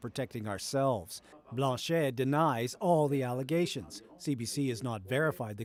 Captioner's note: speaking french language